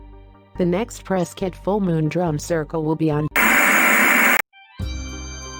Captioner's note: Static